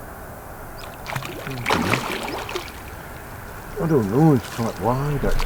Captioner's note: fish splashing